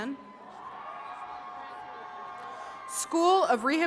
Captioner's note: attendees cheering